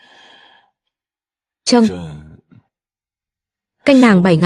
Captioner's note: thở dài